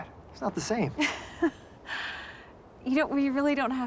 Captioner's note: laughing